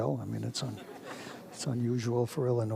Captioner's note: audience laughs